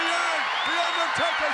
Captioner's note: audience cheers